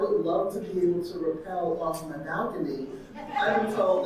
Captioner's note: audience laughing